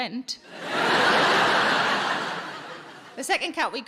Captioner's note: audience laughing